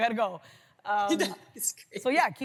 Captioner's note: laughs